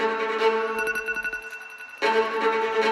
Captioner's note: phone alarm ringing; suspenseful music